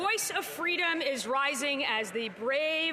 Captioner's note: applause